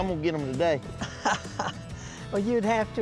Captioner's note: laughs